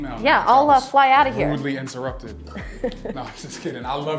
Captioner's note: laughs